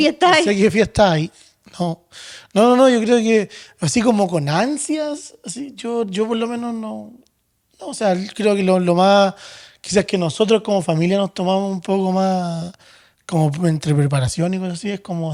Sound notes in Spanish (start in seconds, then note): none